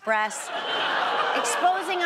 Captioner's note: audience laughs